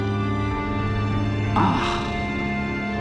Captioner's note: groans